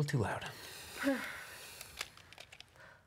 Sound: sighs

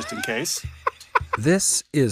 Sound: both laughing

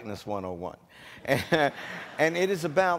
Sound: audience laughing

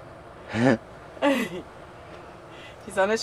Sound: laughter

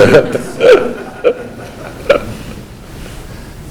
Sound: laughing

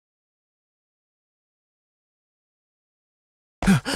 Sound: sniff sniff

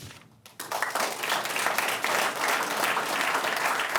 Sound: audience clapping

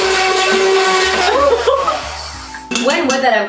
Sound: laughs

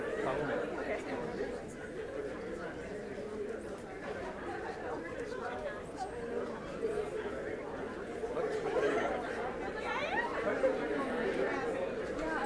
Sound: crowd chatter

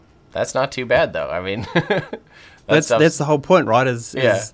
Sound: laughs

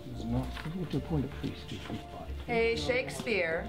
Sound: valor pickett mumbles

